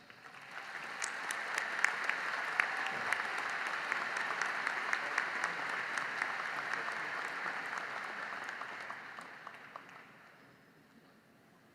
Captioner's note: applause